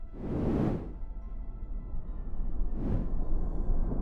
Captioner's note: soft whooshing